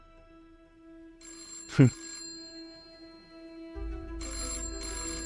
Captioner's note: phone ringing